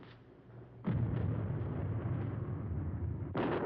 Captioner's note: thunder crashing